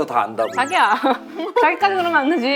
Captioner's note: giggling